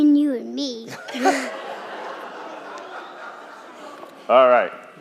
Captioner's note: crowd laughing